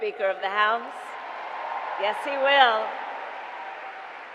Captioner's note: applause